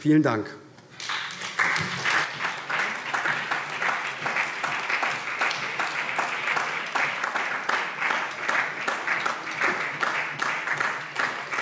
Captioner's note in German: Beifall SPD